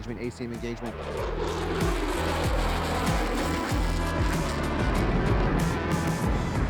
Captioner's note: aircraft humming; robust music